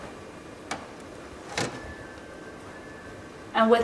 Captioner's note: door clicks